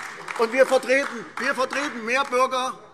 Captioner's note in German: Beifall AfD